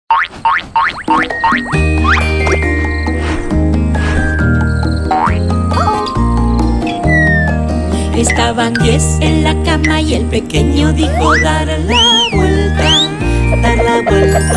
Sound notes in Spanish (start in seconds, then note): 0.1 Música Alegre; 0.1 Sonido resorte